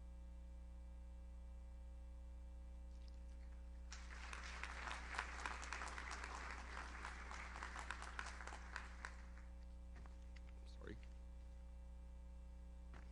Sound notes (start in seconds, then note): 3.9 audience applauds